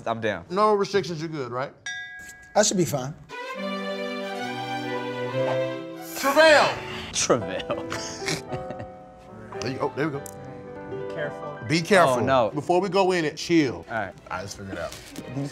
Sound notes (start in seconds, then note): 3.3 soothing music; 7.4 laughs